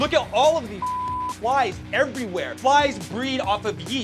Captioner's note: beep